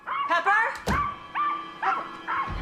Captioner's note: dog barking